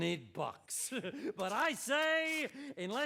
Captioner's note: chuckles